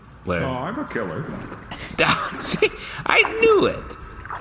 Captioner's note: laughing